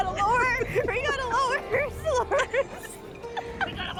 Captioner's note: laughing